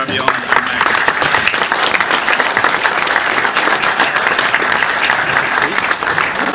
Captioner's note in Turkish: alkışlar